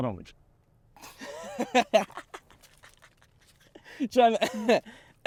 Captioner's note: Dylan laughs; coughs